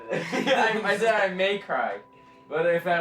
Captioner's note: laughs